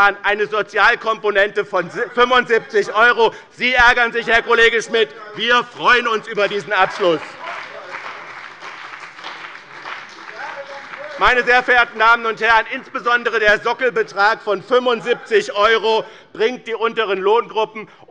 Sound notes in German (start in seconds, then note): 7.5 Lebhafter Beifall bei dem BÜNDNIS 90/DIE GRÜNEN und der CDU